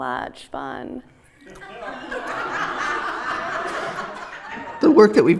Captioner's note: laughter